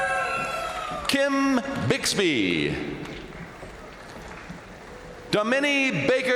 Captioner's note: crowd cheering; crowd applauding